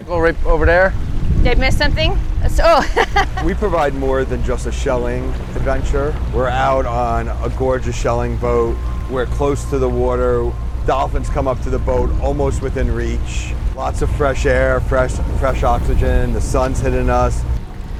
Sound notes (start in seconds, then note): 2.8 laughing